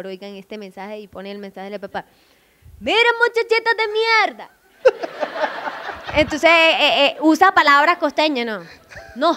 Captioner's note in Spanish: con acento arabe